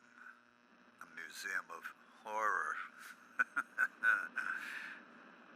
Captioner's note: laughs